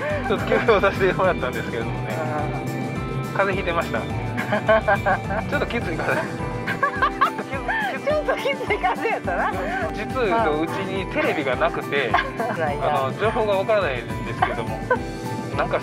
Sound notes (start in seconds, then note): 4.3 laughs